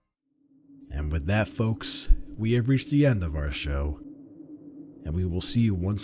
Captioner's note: wind howling